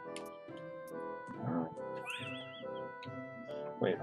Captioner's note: laughs